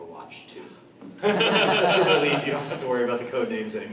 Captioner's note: sighs; laughs